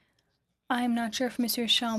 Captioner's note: speaking French